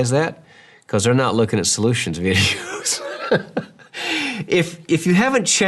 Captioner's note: laughs